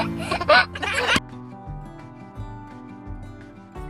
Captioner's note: laughter; cheerful music